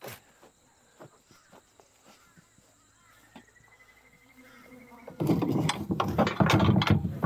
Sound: insects chirping; birds chirping

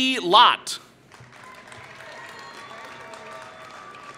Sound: applause

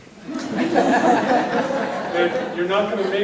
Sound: audience laughing

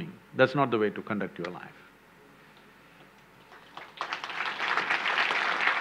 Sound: applause

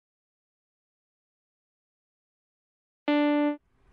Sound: silence

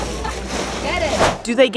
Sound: background chatter

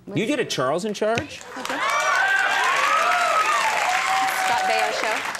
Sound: audience cheering

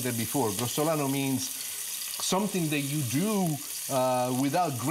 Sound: foreign language

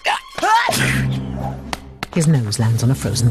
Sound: snowman grunting; carrot thudding; snowman sneezes

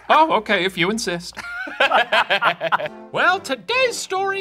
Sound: laughing

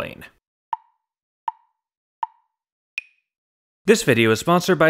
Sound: tick, tick, tick, tick, tock

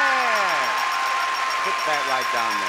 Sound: audience cheering

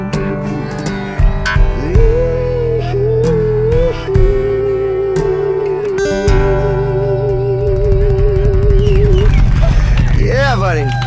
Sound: cheers and applause

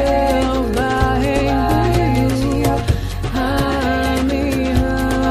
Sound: chanting in foreign language

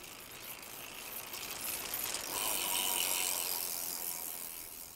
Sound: bike freewheeling

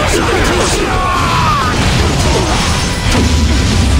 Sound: KO Scream

